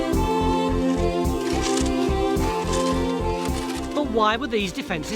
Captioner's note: shovel scraping